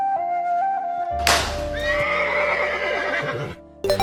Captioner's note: meat slaps and Horse Neighs